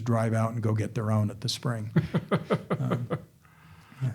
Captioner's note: chuckling